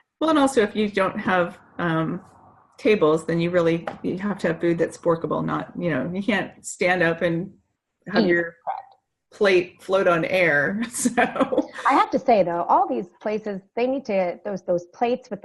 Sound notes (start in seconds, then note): 10.9 laughing